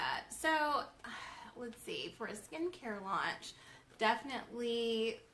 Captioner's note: sigh